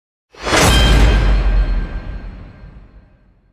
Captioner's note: loud whoosh